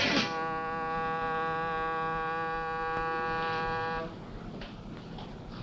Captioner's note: horn blares